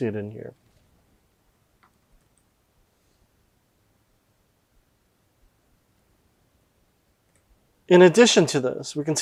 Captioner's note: silence